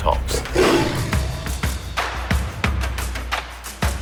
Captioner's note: tiger roars